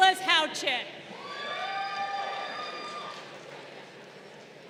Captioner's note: crowd cheering